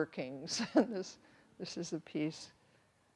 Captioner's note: chuckles